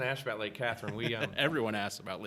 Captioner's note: laughing